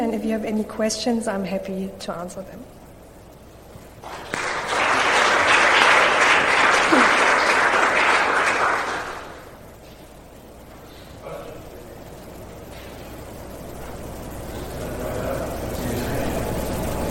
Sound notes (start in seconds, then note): 4.0 applause